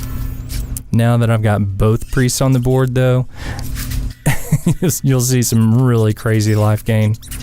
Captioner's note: haha